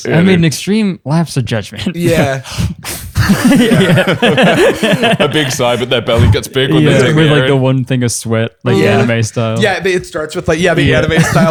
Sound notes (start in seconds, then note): 3.0 dramatic sigh; 3.1 laughter